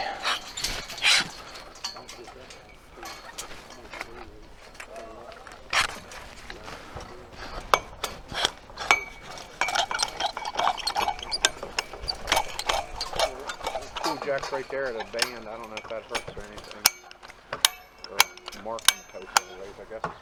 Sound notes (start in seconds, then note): 0.3 pull jack scratches; 5.9 pull jack scratches; 9.3 rail clanks; 12.4 pull jack clanks